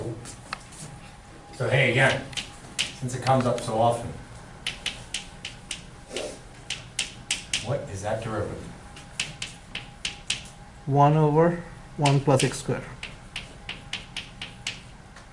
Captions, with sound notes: So, hey, again, since it comes up so often, what is that derivative? - [Voiceover] One over one plus X squared.